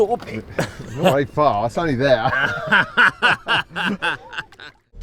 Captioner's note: laughing